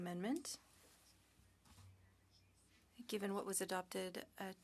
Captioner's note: speaking French